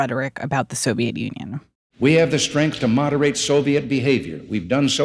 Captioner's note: soundbite of archived recording